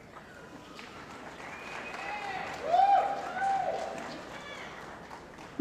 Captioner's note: cheering & Applause